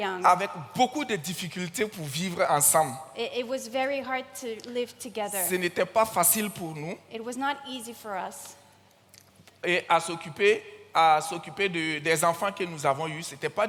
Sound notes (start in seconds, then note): 0.3 continues in French; 5.3 continues in French; 9.7 continues in French